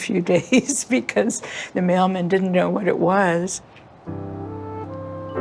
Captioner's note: laughs